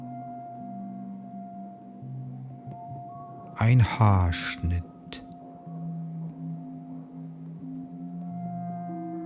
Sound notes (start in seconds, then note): 5.2 german